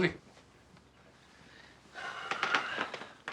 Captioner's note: sighing